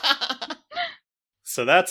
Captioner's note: laugh